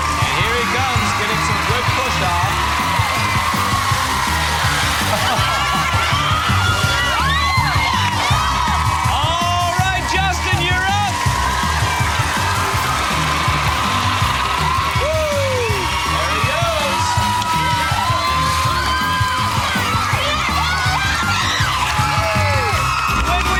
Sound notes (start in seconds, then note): 5.5 cheers and applause; 7.1 laughs; 7.7 cheers and applause; 16.2 cheers and applause; 23.3 cheers and applause